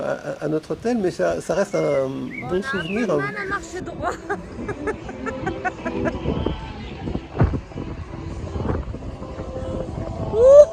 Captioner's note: laughs